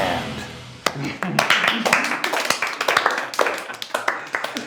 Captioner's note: group applauds